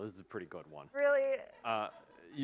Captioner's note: laughter